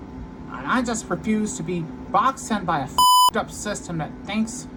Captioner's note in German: Piep